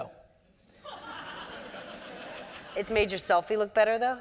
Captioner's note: audience laughter